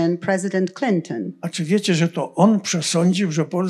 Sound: foreign language

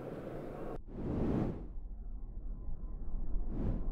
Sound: whooshing; whooshing

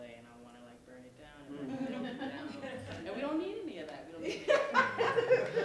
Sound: laughter

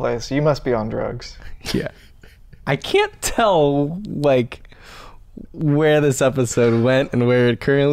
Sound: chuckles

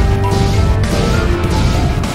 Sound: laser explosion

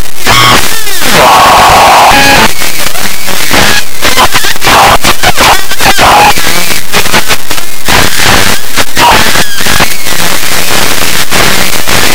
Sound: screaming; laughing

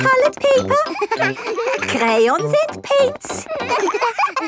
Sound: all laughing

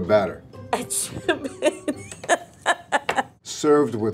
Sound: laughs

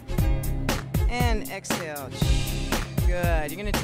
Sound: hissing

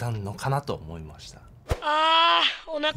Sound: fussing

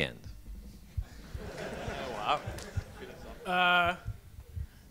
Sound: audience laughs

